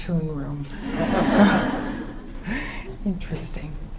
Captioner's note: audience laughter